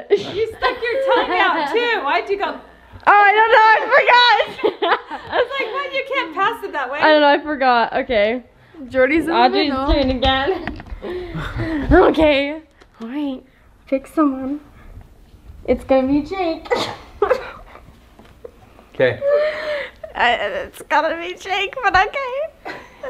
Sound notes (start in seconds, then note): 4.4 everyone laughing; 17.2 laughs